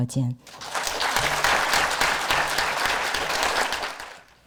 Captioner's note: audience applause